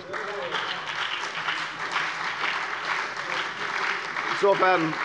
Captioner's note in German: Beifall bei der FDP, der SPD und der LINKEN